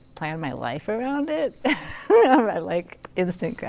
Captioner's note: laughs